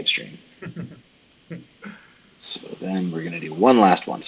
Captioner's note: laughs